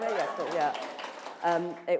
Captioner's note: applause